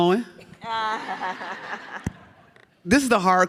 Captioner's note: audience laughs